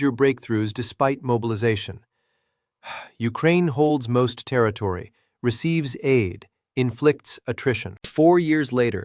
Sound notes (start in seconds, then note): 2.8 sighs